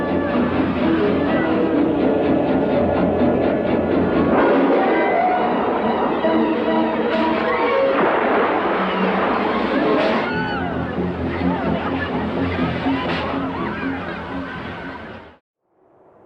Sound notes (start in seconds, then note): 0.7 people screaming; 4.4 intense music; 8.5 water splashing; 10.1 people screaming